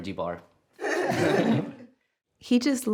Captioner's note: laughter